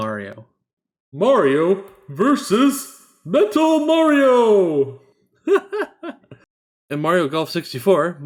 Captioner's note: laughs